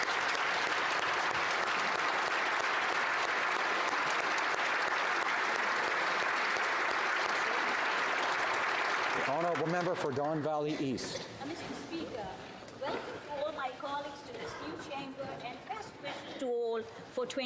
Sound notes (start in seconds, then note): 4.7 applause